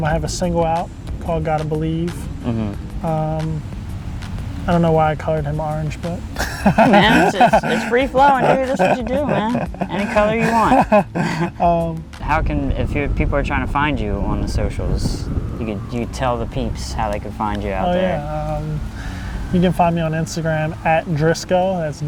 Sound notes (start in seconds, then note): 6.3 laughs